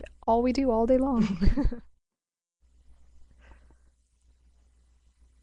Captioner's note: presenters chuckle